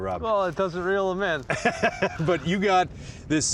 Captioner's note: laughing